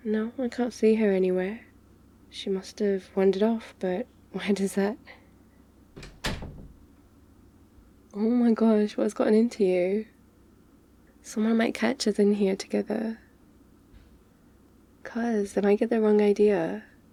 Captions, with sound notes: no, I can't see her anywhere she must have wandered off but why does that... *door closes* oh my gosh, what's gotten into you? someone might catch us in here together cos they might get the wrong idea